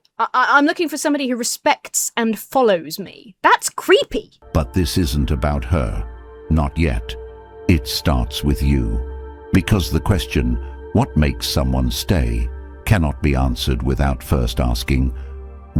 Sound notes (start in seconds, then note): 4.6 AI Voice